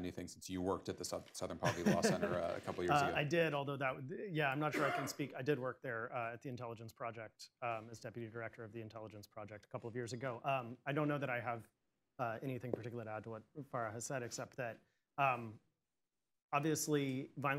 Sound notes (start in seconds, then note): 1.6 laughs